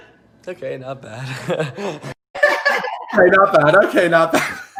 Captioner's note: laughs